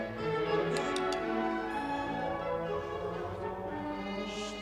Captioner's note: tapping music stand; orchestra stopping